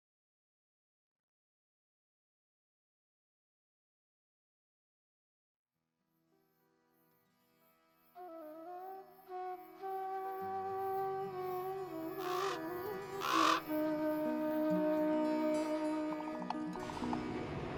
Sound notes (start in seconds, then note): 8.8 crow cawing; 8.8 gentle serene music